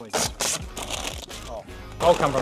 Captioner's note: plastic rustles